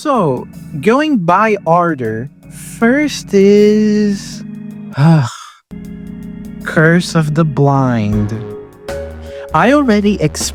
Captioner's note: sigh